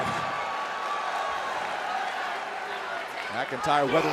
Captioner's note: crowd cheering